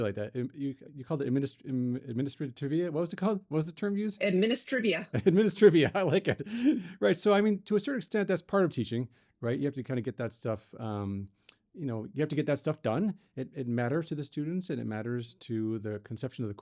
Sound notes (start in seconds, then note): 5.1 laughs